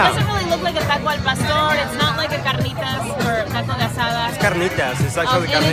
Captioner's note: speaks in a foreign language